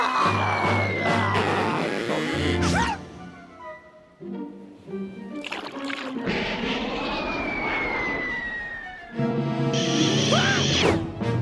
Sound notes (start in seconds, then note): 1.5 rope creaks; 7.1 whistling through air; 10.0 whooshes